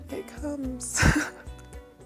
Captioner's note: laughing